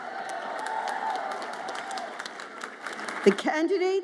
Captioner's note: audience applauds and cheers